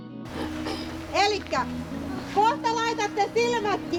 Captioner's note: speaking Finnish